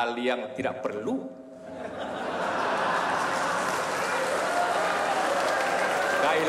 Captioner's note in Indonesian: tawa dan tepuk tangan